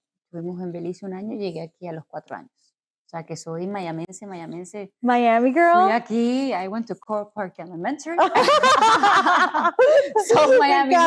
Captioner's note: laughs